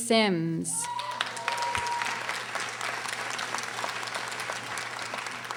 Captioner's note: audience applauding